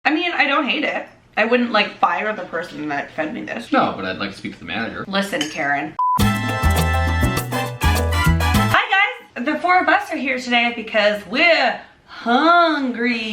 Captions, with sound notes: - I mean I don't hate it. I wouldn't fire the person that fed me this. - No, but I'd like to speak to the manager. - Listen, Karen (beeping) (upbeat music) - Hi guys, the four of us are here today because we're hungry.